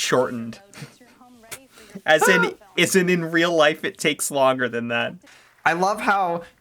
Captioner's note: laughs in artificial load times